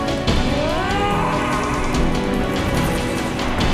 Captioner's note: man screaming